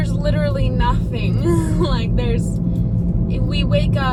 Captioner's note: laughs